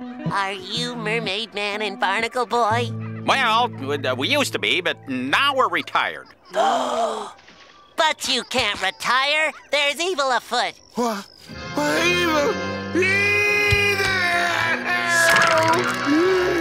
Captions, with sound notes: Are you Mermaid Man and Barnacle boy? Well, what we used to be, but now we're retired. [gasps] But you can't retire, there's evil afoot! Evil? [screaming]